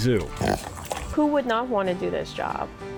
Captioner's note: pig snorting